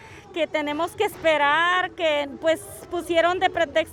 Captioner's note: speaking Spanish